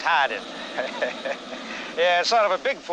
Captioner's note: local chuckling